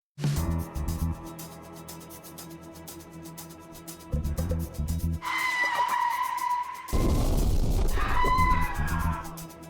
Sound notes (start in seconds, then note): 5.2 tires squealing; 6.9 explosion; 7.9 man screams